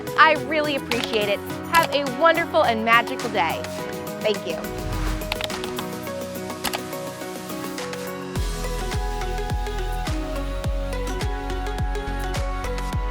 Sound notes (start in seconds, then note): 4.3 mouse clicking; 8.0 upbeat music